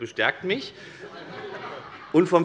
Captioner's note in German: Heiterkeit und Beifall bei der SPD